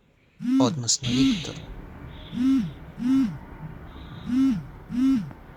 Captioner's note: Alexandr's phone vibrates